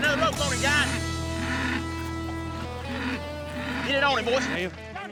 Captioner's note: bull grunting